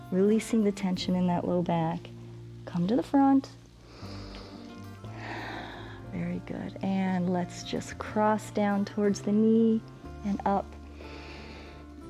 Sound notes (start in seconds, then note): 3.8 inhales and exhales; 10.9 inhales